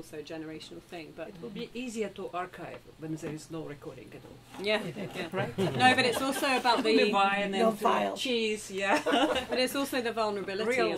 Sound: laughter

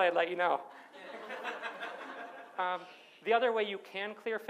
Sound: audience laughs

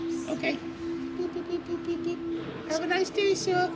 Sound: imitating beeping sound

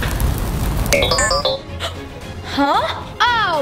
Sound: robot sound

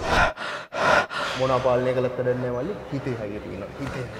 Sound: panting

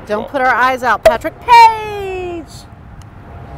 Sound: cork pops

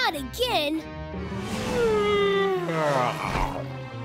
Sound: yawning

